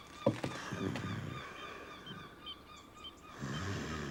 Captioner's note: gulls calling; snoring